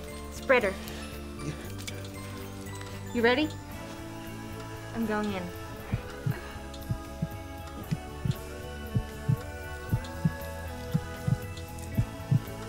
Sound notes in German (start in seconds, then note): 6.7 Herzschlag